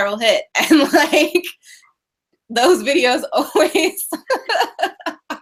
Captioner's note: laughing